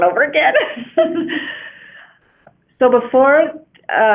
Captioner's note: laughing